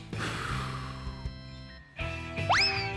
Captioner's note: inhales and exhales deeply